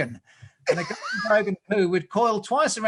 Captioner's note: laughs